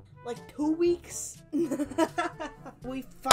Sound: unnecessary laughter

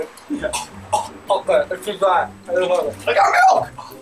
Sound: heaving

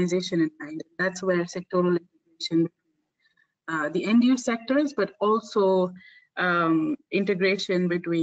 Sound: audio static

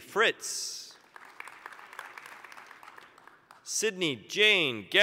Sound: applause

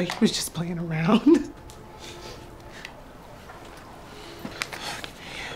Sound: chuckles

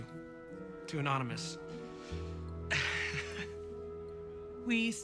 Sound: laughs

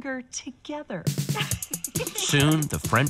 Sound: laughs

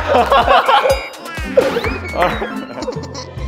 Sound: cracks up

